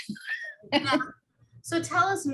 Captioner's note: laughs